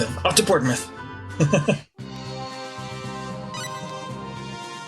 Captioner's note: chuckles